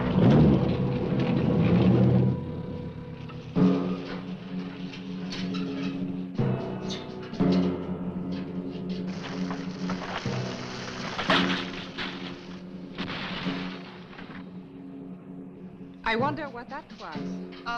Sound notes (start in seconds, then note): 0.0 engine cranks; 3.5 dramatic music; 9.0 branches snapping; 9.5 ground rumbling